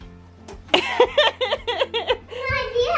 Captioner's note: laughs